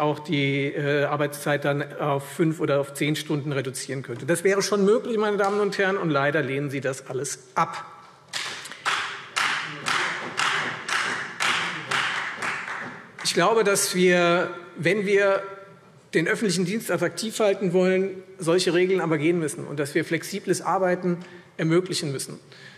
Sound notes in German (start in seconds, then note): 8.3 Beifall Freie Demokraten